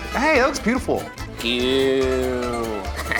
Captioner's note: laughing